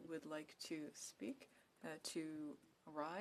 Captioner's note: speaking in French